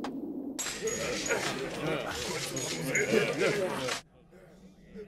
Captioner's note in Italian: brusio indistinto